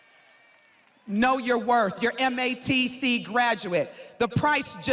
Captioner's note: students cheering